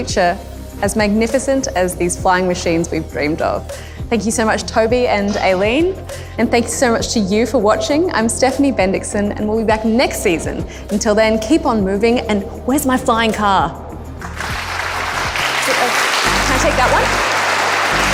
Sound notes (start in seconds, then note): 14.2 applause